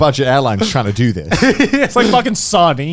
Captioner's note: chuckling